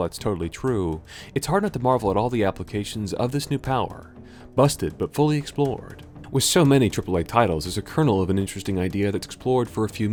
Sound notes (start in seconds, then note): none